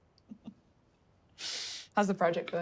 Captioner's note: Naomi chuckles